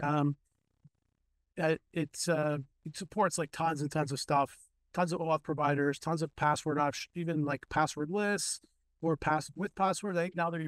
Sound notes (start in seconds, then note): none